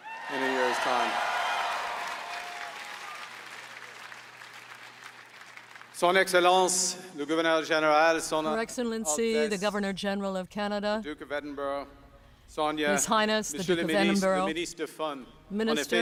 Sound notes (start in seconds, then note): 4.8 applause